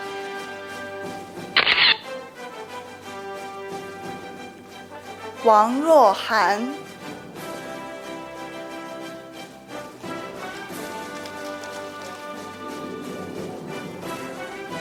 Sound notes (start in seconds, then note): 1.6 camera shatters; 2.6 orchestral music; 6.8 orchestral music